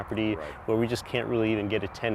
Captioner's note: voiceover